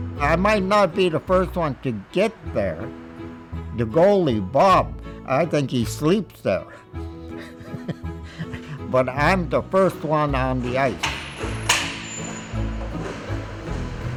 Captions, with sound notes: I might not be the first one to get there. The goalie, Bob, I think he sleeps there. (laughs) But I'm the first one on the ice.